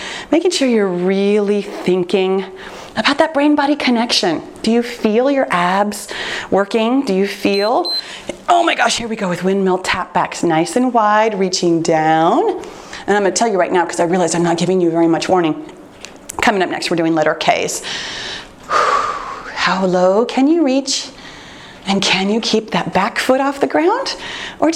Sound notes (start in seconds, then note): 7.5 timer beeps; 18.6 exhales sharply